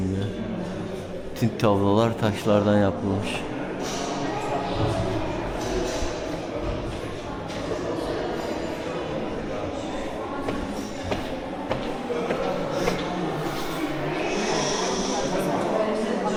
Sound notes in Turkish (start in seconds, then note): 13.1 homurdanır